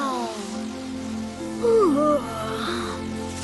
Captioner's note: yawns